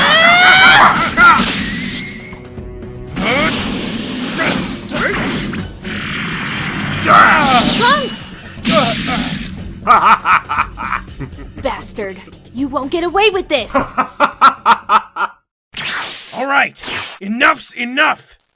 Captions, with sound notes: (laughter) Bastard.. you won't get away with this! (laughter continues) Alright! Enough's enough!